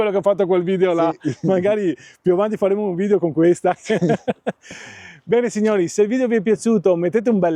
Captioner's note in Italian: risate